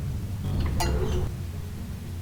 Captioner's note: clang